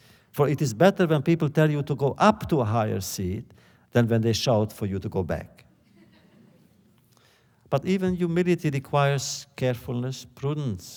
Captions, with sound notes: For it is better that people tell you to go up to a higher seat, than when they shout for you to go back.” (laughter) But even humility requires carefulness, prudence.